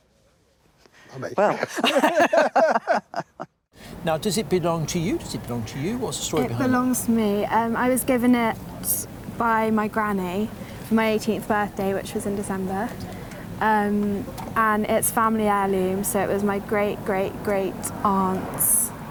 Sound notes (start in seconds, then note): 1.5 both laugh